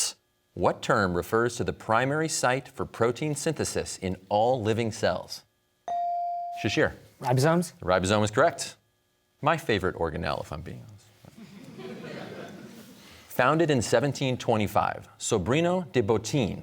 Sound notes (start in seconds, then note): 11.3 audience laughter